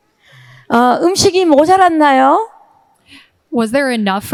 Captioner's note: speaking in foreign language